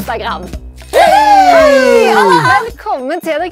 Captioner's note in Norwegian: Jubel